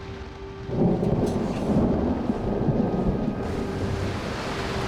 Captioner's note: thunder